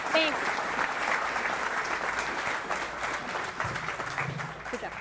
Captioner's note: applause